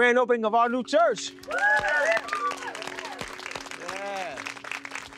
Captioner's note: group cheering